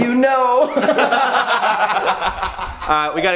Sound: laughing

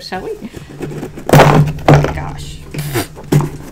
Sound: box slipping and banging on table

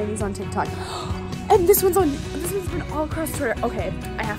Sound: gasp

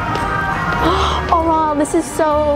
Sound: gasps

